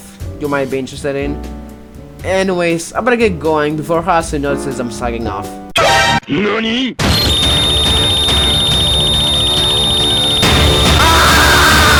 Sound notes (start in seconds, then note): 7.0 earrape and it's time to leave intensifies